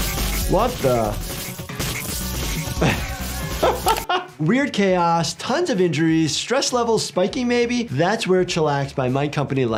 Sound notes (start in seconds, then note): 2.7 doctor laughs